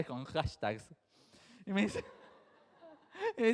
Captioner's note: chuckling; crowd laughs